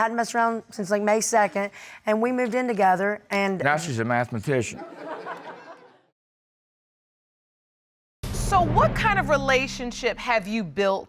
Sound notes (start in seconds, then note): 4.8 crowd laughs